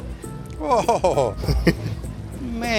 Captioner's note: laughs